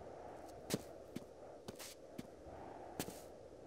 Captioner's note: wind howling